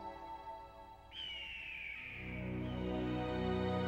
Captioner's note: bird calls